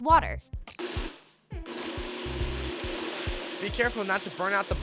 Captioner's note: blender whizzing